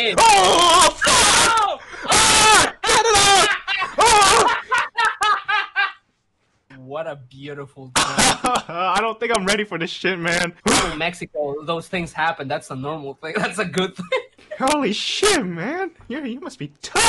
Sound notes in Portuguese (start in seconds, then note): 4.7 ri intensamente; 8.1 risos